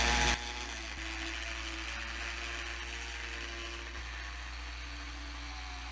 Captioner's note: mechanical whirring noise